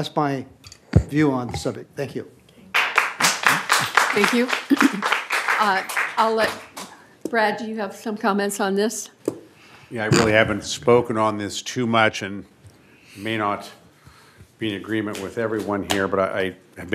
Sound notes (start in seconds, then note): 5.4 applause